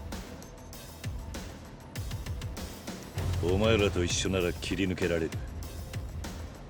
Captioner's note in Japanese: none